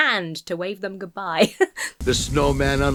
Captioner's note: laughs